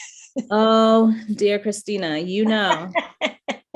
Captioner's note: laughing